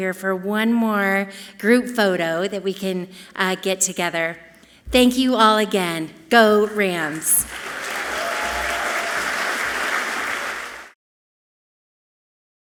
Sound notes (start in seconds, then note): 7.0 audience clapping loudly